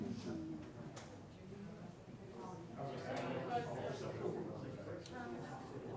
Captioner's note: crowd chattering distantly